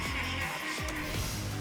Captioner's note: laughing maniacally